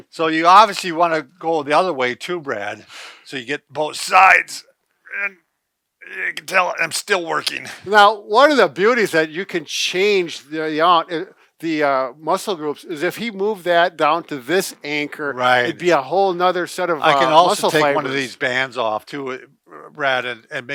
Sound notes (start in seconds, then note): 4.7 grunting